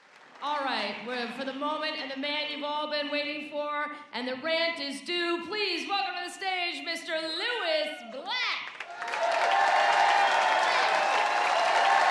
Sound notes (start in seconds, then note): 8.6 applause and cheers